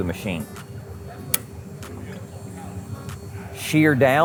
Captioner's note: switch clicks